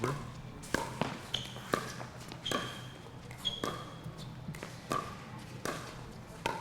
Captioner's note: ball being hit; shoes squeaking